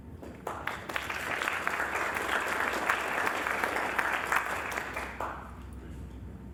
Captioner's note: applause